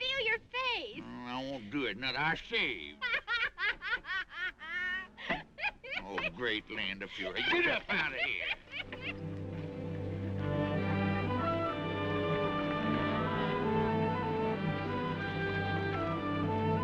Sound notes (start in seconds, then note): 3.0 both laughing; 8.6 both laughing; 10.0 gentle upbeat music